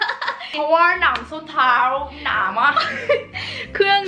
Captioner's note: laughing; laughing